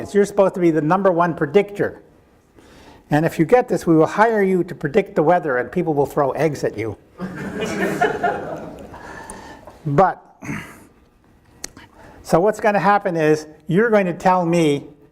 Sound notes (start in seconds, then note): 7.2 audience laughing